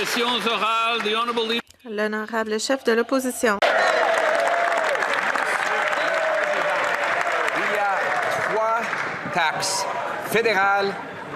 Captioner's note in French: applaudissements